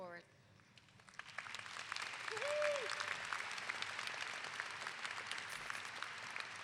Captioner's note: clapping